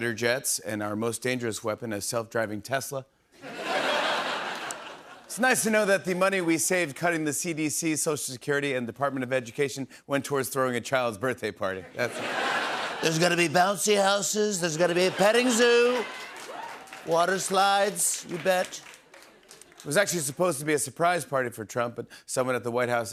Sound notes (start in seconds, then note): 12.9 As Trump; 19.7 normal voice